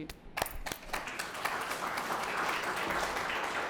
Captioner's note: applause